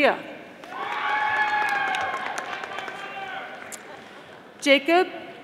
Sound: audience applauding

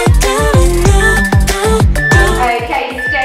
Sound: beeping

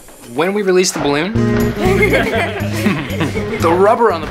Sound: laughing

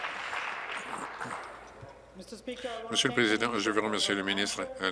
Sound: applause

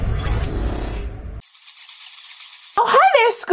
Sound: bats screeching

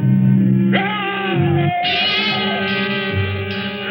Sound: enraged scream

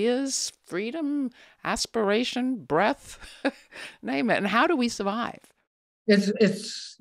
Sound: laughs

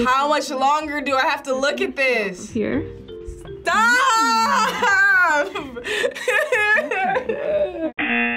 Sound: sad laughter; buzzer

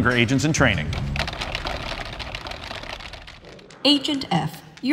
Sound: keyboards clacking

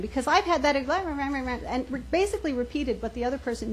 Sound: mocking murmur

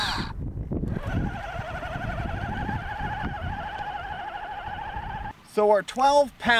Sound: buzzing; remote control truck engine humming

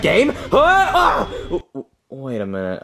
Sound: Mario grunts

